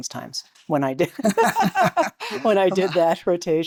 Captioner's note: laughter